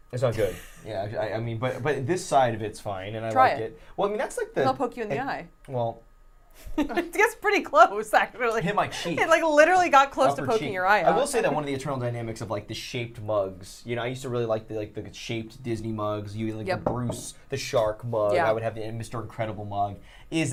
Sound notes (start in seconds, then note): 0.4 laughs; 6.9 laughs